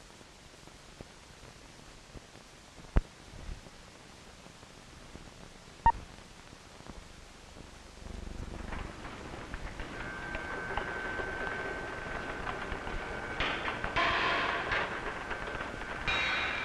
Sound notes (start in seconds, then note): 5.9 electronic beep; 8.6 Sound of Chaos No. 1 moving: wheels turning, metal clanging